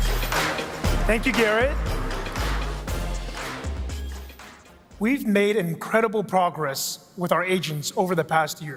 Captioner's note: applause